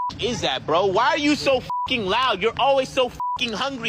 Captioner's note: beep